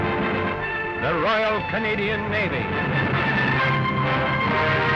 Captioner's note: voiceover